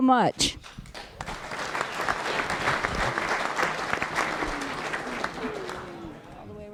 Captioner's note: applause